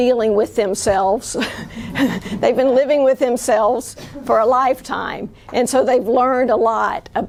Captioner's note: chuckles